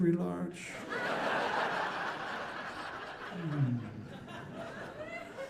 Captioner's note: audience laughing